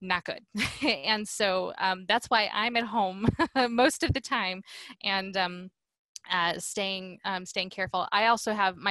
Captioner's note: laughter